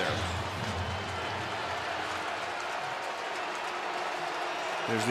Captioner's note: cheering